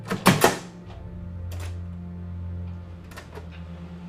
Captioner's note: door opening